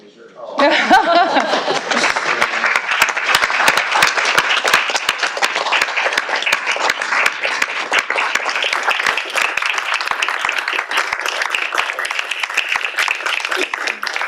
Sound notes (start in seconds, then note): 10.9 applause